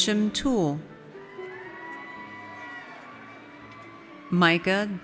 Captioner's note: audience cheers